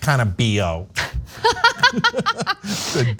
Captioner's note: laugh